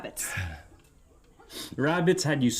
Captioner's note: Max chuckles